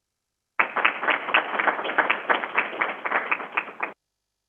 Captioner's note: crowd applauding